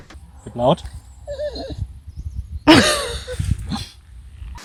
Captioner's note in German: winsel